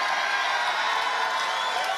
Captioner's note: cheers and applause